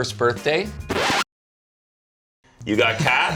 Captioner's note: record scratch